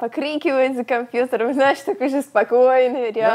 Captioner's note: laughs